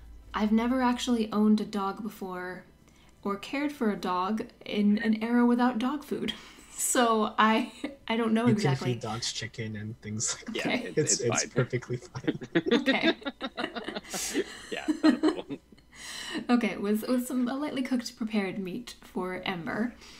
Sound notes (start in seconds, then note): 10.2 laughs; 13.5 laugh